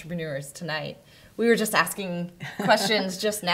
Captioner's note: soft laughter